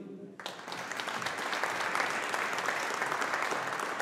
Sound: audience applauding

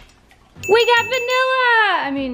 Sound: bell dings

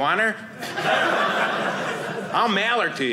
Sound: audience laughing

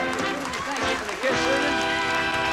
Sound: audience applauding

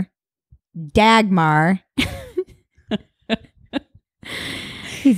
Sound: both laugh

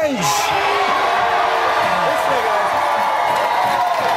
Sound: audience cheers

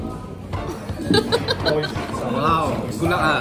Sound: evil laughter

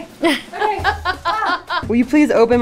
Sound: laughs

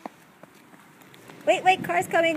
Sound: pause

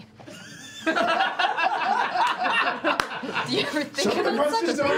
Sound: laughter

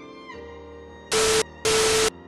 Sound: distorted static

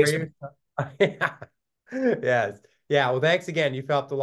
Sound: laughs

